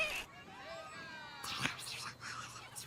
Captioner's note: whispering